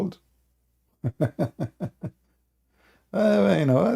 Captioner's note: Ketawa